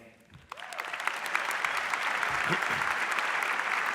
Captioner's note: audience applauds